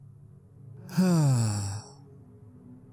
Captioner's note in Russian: вздох